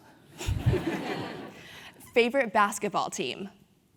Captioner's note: laugh